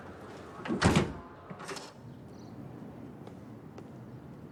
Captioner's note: door banging